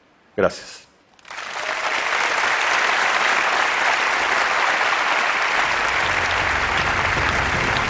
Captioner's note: Applause; 掌聲